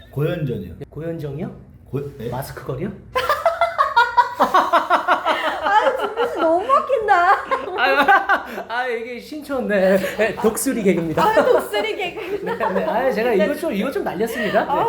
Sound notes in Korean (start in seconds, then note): 7.6 낄낄낄